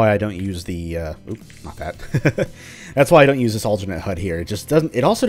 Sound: laughs

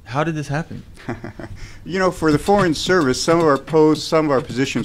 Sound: laughing

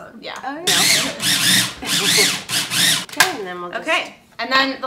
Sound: food processor whirs

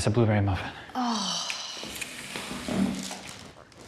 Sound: sighs

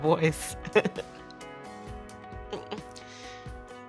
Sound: laughs

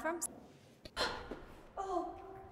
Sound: Nicole gasps

